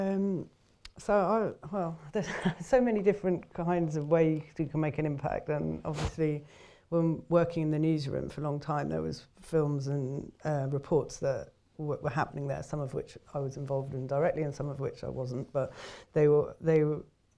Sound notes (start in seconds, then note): 0.1 pause; 2.2 chuckles